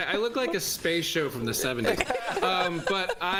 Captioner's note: laughter